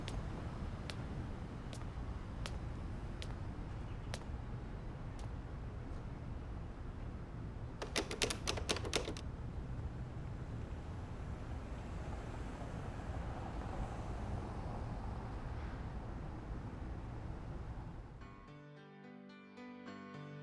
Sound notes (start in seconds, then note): 0.2 city sounds; 16.2 pleasant music